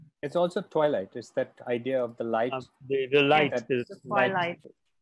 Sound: people mumbling

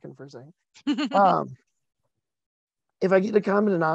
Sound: chuckles

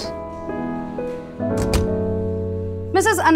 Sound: door closes

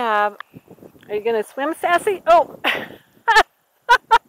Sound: laughter as puppy steps into deeper water than she expected

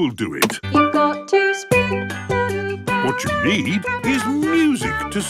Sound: radio

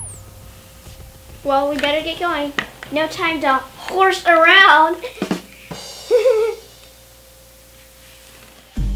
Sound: chuckling

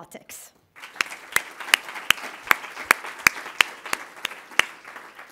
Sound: applause

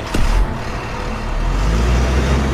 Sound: engine turns

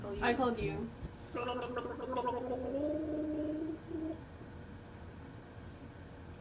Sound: Hajime gargles

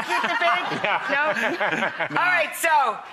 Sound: laughing

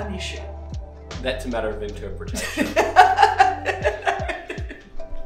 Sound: laughing

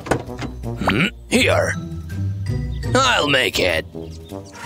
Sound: groans

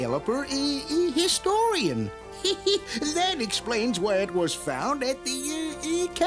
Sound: laughs

